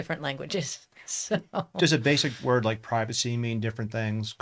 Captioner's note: laughs